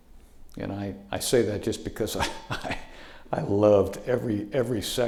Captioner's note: laughing